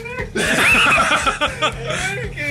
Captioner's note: laughter